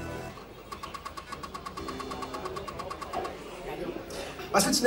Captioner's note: floppy disk noises